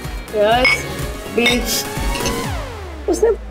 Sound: toasting

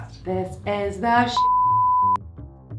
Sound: beep

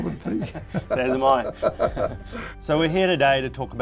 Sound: laughing

